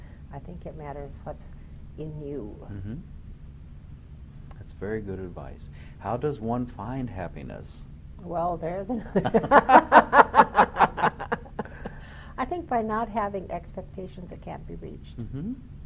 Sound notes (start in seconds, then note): 9.1 laughing in unison